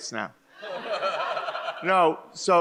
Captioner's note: Michael laughs